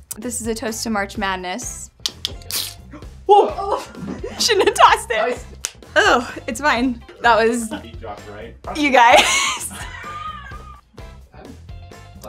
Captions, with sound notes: This is a toast to March Madness. (can hisses) - Whoa! Shouldn't have tossed it. Oh, it's fine. That was- You guys.